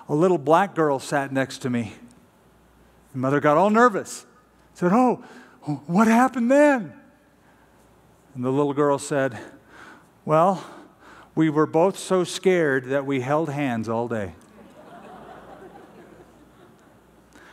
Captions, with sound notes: A little black girl sat next to me. And mother got all nervous-- said, oh. What happened then? And the little girl said, well, we were both so scared that we held hands all day. [LAUGHTER]